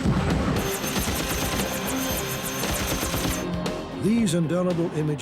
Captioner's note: machine guns clattering